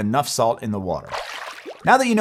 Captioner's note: water splashing